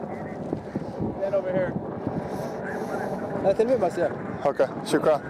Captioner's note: man says something in Arabic